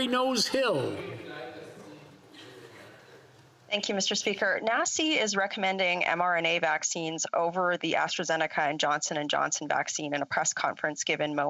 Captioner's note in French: voix de l'interprète